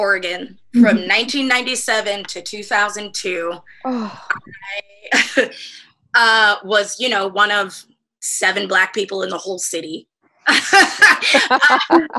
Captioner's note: laughter